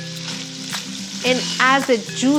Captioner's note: sizzling